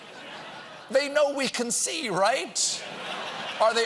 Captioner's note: laughter